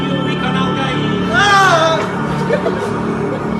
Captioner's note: screams in agony